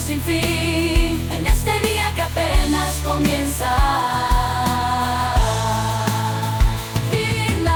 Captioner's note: seductive voice